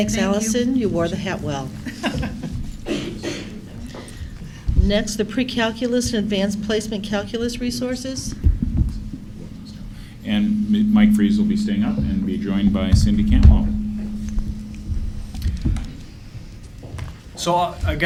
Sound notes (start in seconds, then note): 1.8 laughter